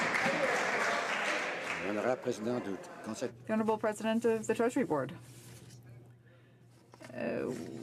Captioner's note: some Applause